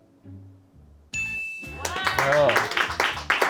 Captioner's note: bell chimes; crew applauds